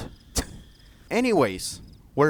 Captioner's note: dental click